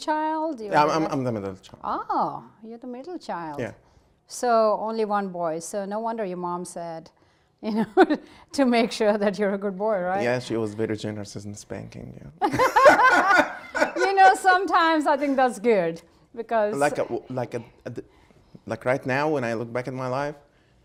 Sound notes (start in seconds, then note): 7.9 laughing; 12.4 Gingrich and Bullis laugh